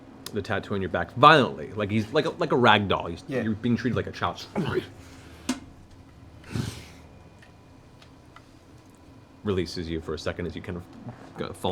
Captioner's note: grunts